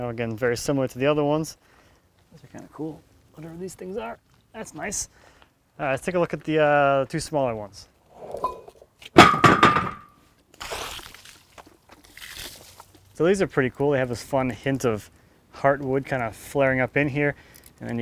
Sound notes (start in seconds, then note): 9.2 metal clanking; 10.6 water splashing